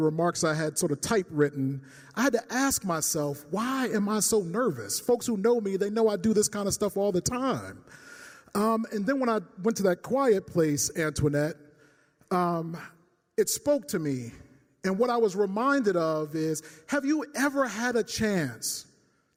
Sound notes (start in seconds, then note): none